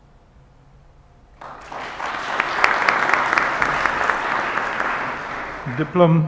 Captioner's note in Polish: oklaski